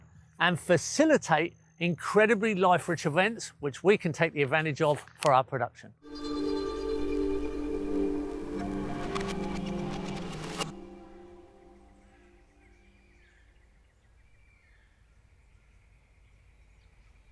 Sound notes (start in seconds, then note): 6.0 outro music; 11.3 nature sounds